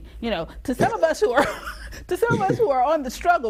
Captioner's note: laughs